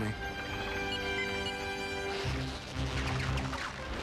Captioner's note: beeping